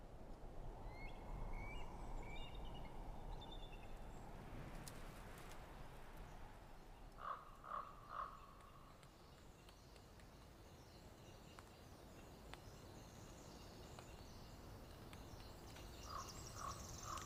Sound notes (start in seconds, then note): 7.2 crow cawing; 12.2 birds chirping